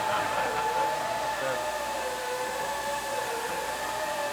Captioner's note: machine buzzing